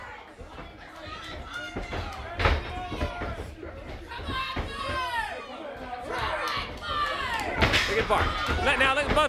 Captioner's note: crowd chatter